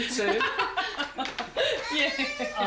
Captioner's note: laughs